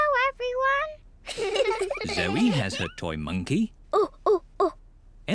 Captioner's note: hoots